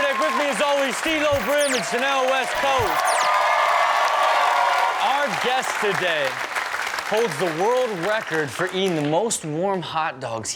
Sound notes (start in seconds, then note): 3.1 audience clapping and cheering